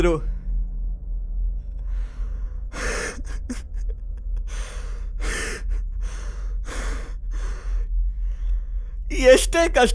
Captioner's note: cries profusely